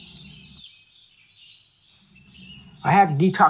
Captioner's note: birds chirping